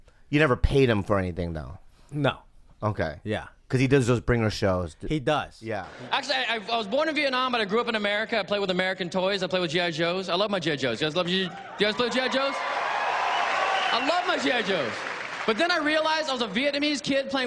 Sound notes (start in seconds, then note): 13.1 crowd cheering and applauding